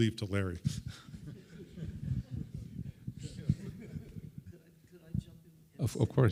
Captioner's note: audience chuckles